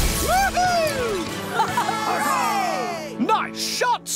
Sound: cheering

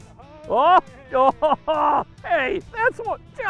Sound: laughing

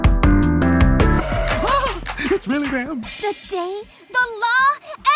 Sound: mellow piano; gasps

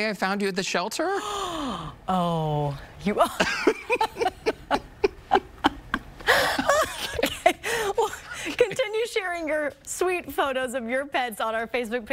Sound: laughter

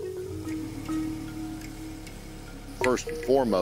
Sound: boat engine sounds

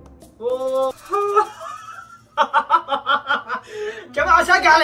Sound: laughing

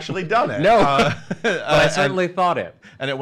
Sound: laughs

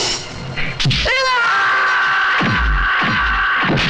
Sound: yelling

